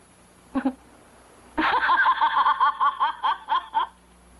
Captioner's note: laughing